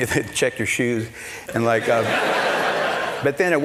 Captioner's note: laughter